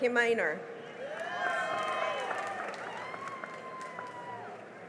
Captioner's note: cheering and applause